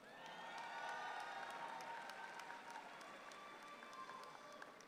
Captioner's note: audience applauds